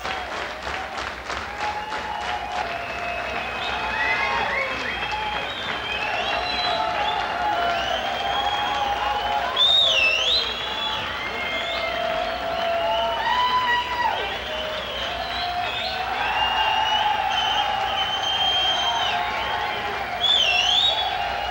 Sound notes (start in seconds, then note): 0.1 crowd rhythmically clapping; 4.1 crowd cheering and whistling